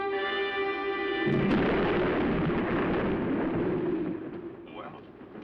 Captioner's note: thunder